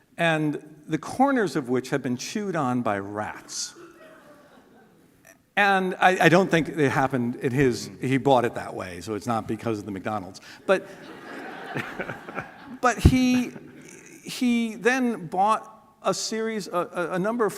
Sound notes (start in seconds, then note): 10.8 laughter